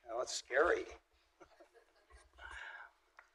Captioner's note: laughter